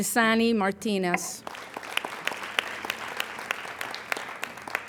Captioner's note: applauding